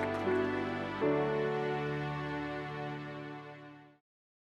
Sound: applause

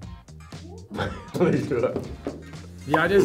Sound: laughs

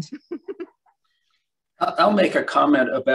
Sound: chuckles

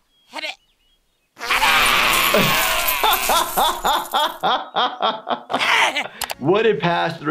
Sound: laughing; objects clattering

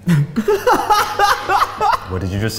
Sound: loud laughter

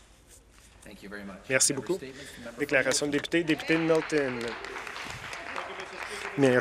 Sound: some Applause

